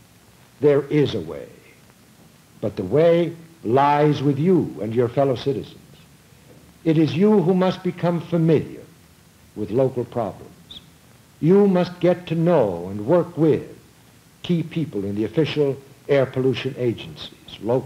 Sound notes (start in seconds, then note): none